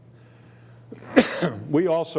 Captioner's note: coughing